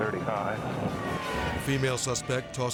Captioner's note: dramatic whoosh; sirens blaring